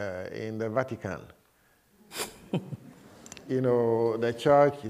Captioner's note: laughter